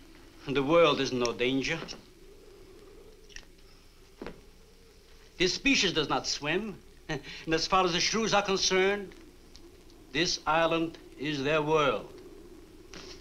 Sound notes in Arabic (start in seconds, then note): 7.0 يضحك